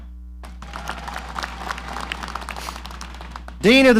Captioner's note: audience applauding